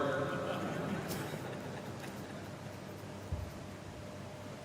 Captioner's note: laughter